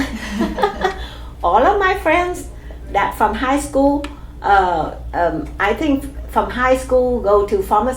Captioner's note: laugh